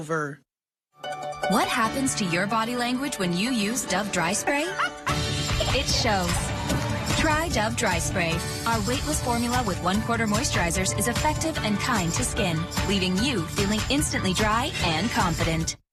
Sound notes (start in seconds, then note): 4.7 laughing